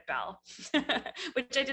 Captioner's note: laughs